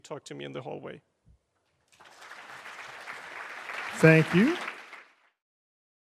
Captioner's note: audience applauds